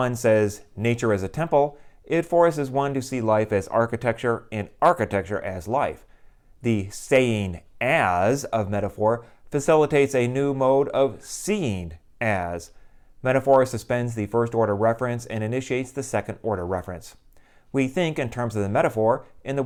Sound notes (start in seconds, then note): none